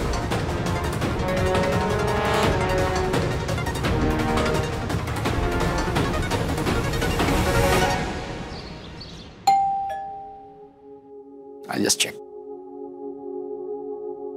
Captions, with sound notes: - [birds chirping] - [doorbell ringing] I'll go and check.